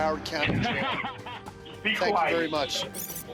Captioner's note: laughing